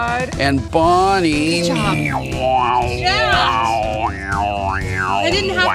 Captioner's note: makes buzzing sounds